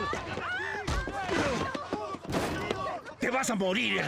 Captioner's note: groaning